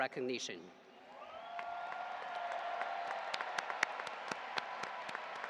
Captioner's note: audience applauding